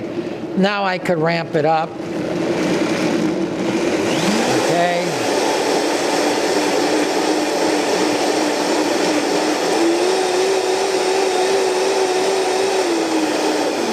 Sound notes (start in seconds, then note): 7.1 blender whirring